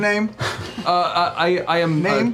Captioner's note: stuttering